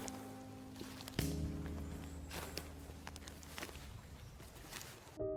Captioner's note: serene piano music; footsteps crunching